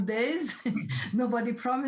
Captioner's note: laughs